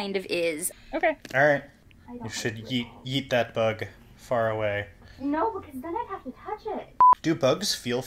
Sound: distant from the mic

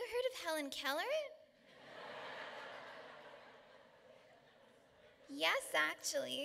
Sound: laughter

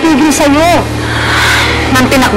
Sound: sighs

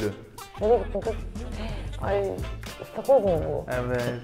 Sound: gasps

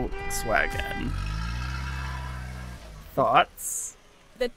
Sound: car zooming

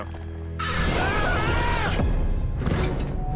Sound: screaming

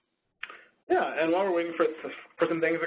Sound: voiceover

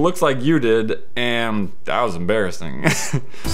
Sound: laughs

